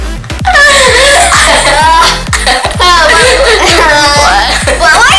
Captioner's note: laughing